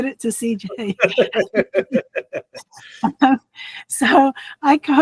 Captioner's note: laughing